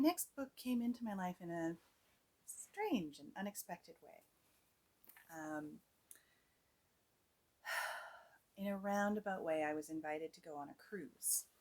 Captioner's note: heavy Sigh